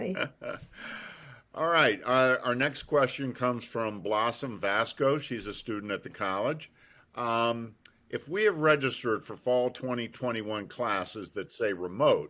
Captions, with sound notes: - Yes, exactly. - (laughs) All right, our next question comes from Blossom Vasco. She's a student at the College. "If we have registered for fall 2021 classes